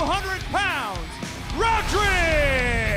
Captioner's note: crowd cheering